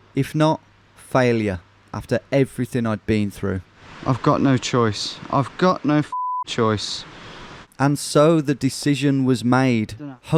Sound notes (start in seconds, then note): 6.1 beep